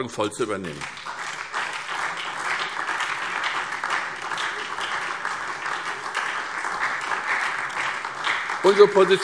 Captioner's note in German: Beifall SPD und vereinzelt DIE LINKE